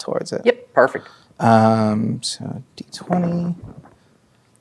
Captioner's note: dice rolling